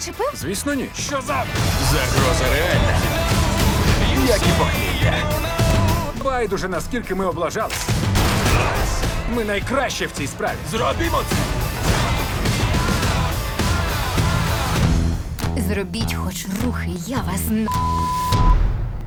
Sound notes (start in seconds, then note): 7.7 gunshot